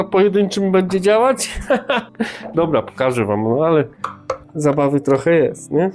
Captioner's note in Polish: śmiech